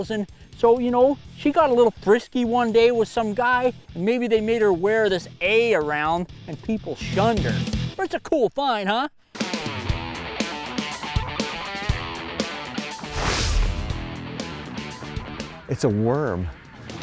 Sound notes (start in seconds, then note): 9.5 upbeat music; 13.0 whooshing